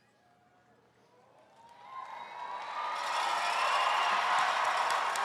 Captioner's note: attendees cheering